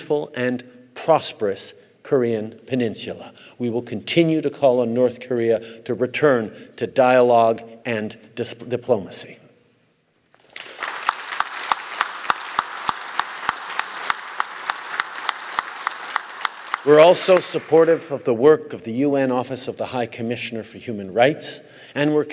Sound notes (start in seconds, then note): 10.3 applause